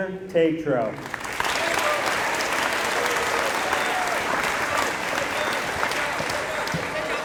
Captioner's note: applause